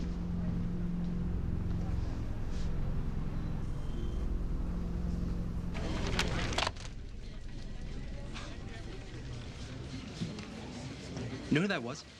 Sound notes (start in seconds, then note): 8.2 quiet chuckle